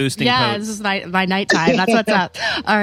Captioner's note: laughs